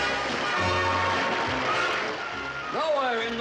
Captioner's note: audience applauds